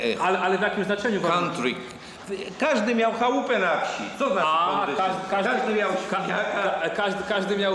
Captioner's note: speaking Polish